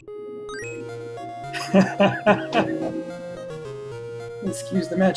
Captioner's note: laughs